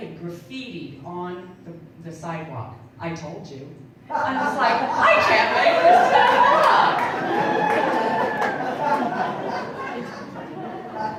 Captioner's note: audience laughing